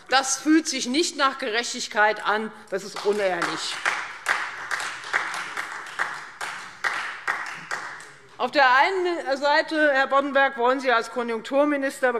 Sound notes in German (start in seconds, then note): 5.1 Beifall Freie Demokraten